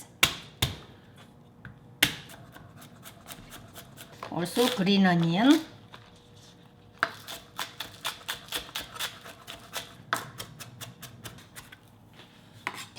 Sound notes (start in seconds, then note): 0.2 knife thudding; 7.1 vegetables crunching